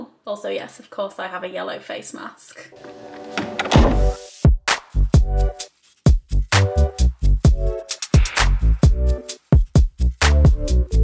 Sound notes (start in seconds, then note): 2.7 door creaking; 5.9 upbeat music